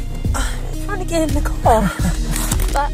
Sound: Terrence laughs

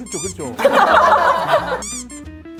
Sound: hahaha

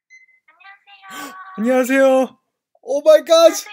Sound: gasp

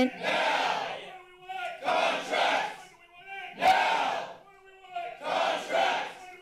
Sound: protester shouting

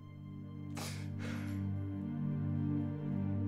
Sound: sniffling

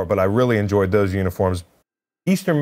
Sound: none

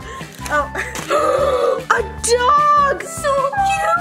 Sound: gasps

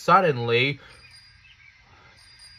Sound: ring, ring; ring, ring!

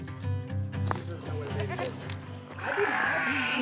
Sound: sheep baa

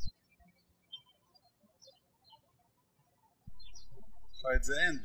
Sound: birds chirping

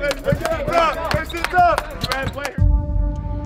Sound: clapping

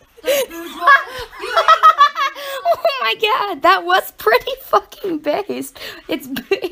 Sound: laughing

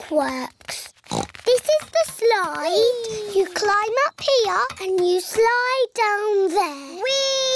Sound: oinks

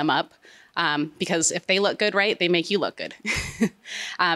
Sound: chuckles

